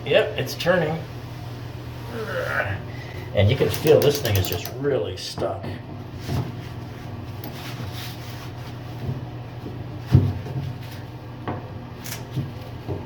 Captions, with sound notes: Yep, it's turning. (groans) And you can feel this thing is just really stuck.